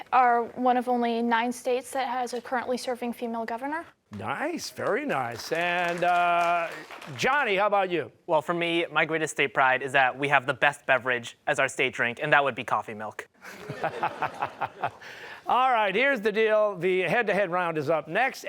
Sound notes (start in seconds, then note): 4.8 applause; 13.4 laughter